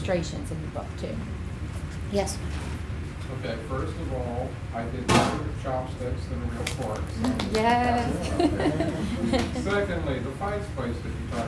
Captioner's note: bang